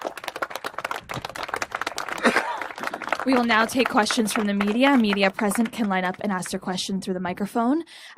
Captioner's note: applause